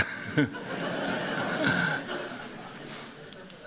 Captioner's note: laughter